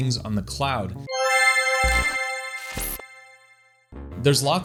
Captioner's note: bell chiming